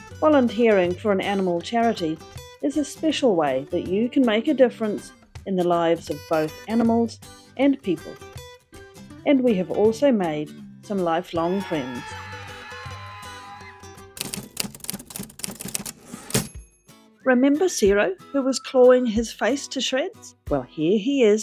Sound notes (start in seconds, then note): 14.4 cheering; 17.3 typewriter clacking; 19.7 whistling jaunty music